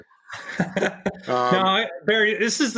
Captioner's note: laughing